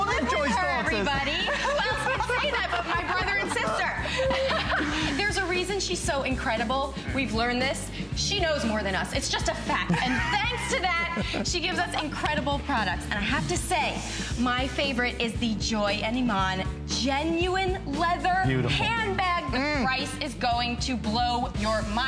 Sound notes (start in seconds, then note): 3.5 laughter